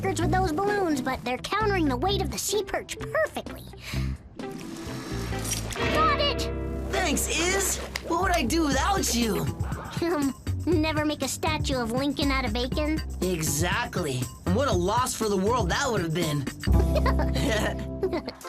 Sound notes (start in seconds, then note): 12.3 chuckles; 18.3 both laugh